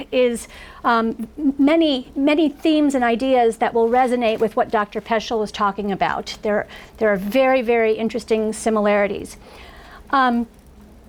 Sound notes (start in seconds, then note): none